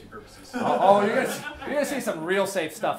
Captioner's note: class laughing